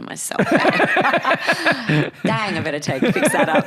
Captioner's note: both laugh